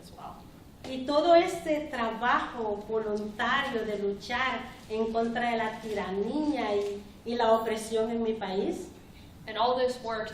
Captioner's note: speaking spanish